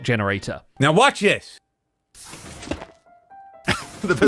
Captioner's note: piston noises; laughs